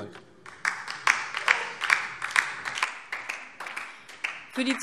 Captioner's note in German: Beifall DIE LINKE und vereinzelt SPD